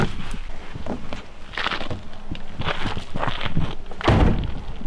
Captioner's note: none